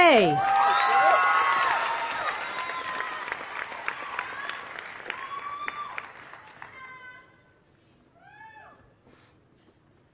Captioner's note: applause